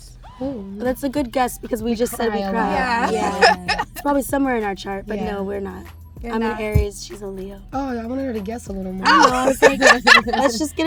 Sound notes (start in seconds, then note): 2.1 laughs; 9.0 laughing